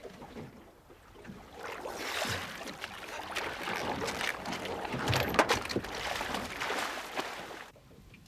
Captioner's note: water splashes